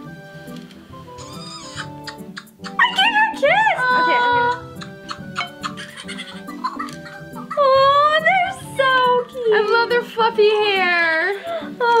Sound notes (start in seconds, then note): 3.9 Fingerlings chuckle